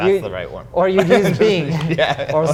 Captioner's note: laughs